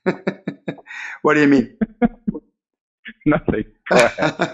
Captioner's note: chuckling; chuckling